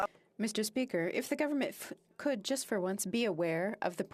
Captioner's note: speaking French